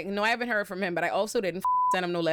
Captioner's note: beep